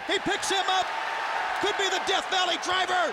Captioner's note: audience cheers